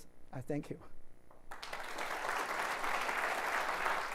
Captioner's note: applause